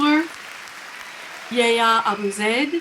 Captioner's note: people cheering